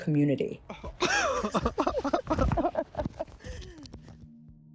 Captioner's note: laughter